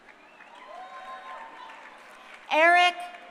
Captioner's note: crowd cheering